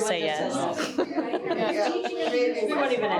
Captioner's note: all chuckling